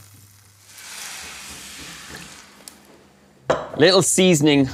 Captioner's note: sizzling